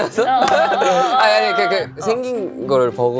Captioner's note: panicking